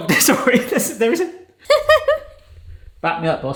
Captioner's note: chuckling